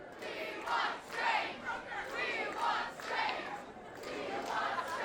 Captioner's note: crowd chanting